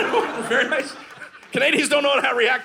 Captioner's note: audience laughing